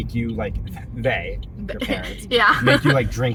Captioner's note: laughter